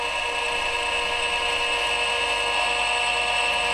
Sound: whirring machine noise

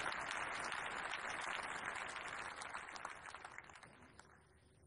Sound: applause

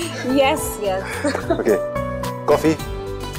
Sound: Poonam laughs

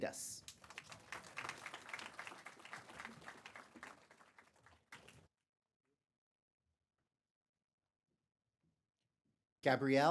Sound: applause

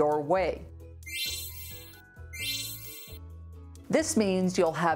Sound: computer chiming

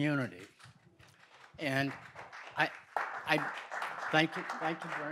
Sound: audience applauds

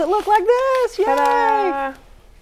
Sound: laughing

